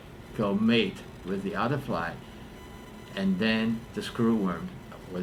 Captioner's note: none